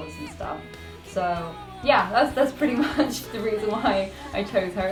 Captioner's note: laughs